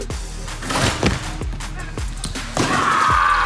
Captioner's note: ball swooshes